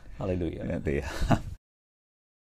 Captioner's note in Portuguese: risos